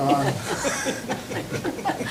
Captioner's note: laughter